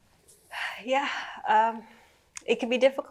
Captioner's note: sighing